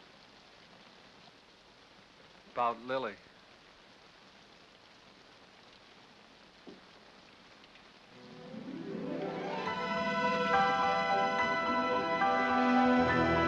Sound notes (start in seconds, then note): 0.3 rain patters; 5.0 rain patters; 8.2 dramatic music